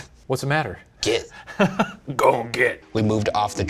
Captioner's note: laughing